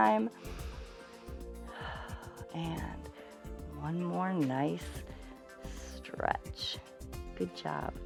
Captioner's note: inhales and exhales